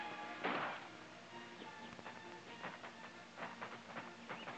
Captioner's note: guns blasting in distance